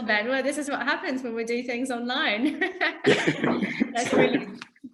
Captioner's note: laughs